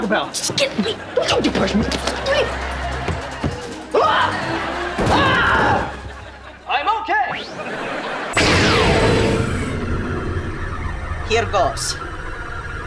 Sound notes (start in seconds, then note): 0.3 stammering; 5.0 screaming